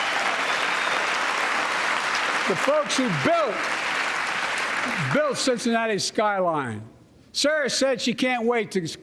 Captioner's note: applause